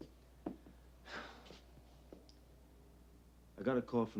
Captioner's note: Dominic sighs